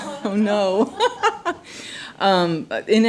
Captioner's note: laughs